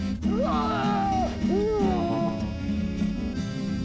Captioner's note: yells